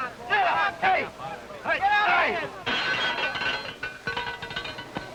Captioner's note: bell ringing